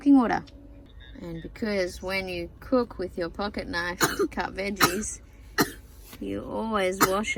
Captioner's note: coughs